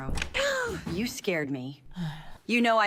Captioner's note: gasps